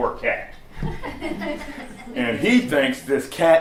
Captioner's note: laughter